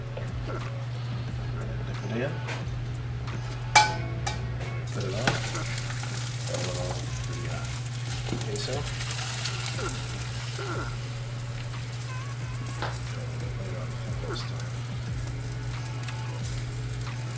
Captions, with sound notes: Dip it in. Put it on. (pan sizzles) Add a little of the queso. (pan sizzles)